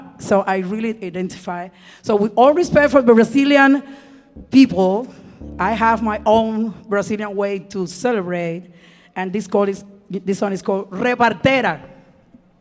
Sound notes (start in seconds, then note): 10.5 speaking in Spanish